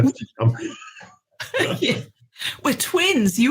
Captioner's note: both laughing